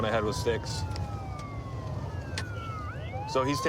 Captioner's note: sirens wailing